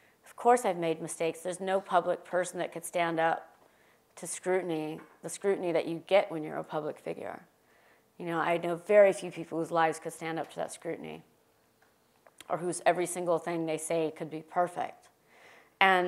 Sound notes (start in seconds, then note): none